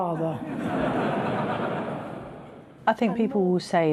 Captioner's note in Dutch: publiek lacht